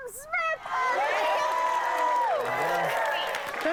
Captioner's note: cheering